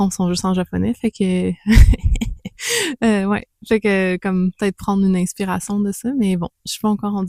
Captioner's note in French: rires